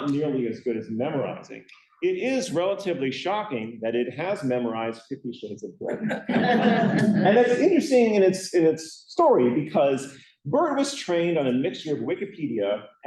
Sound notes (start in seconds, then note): 5.8 laughter